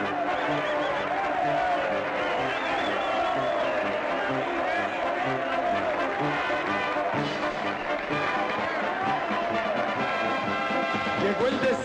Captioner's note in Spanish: Ovaciones y silbidos